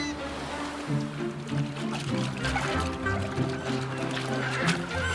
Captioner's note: bears splash in water